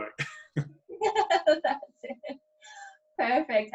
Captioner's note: laughing